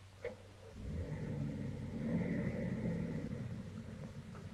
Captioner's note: engine rumbling